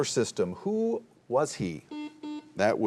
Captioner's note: buzzer buzzing